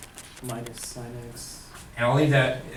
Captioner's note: voiceover